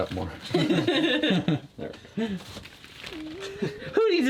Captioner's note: giggles